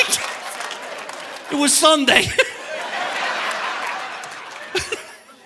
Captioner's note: laughs